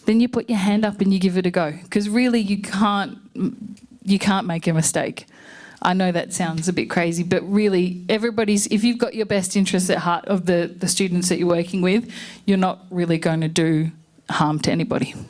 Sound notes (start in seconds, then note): none